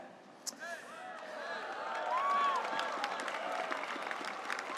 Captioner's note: audience cheers